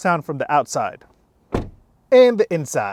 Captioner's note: door thud